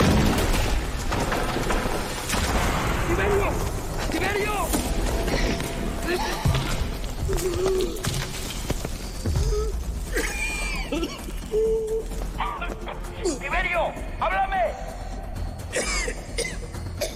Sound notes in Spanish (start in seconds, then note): 0.0 Explosión; 5.2 Respiración dificultosa